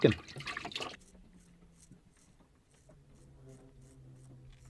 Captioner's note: scraping sound